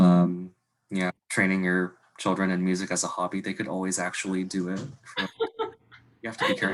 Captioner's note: laughs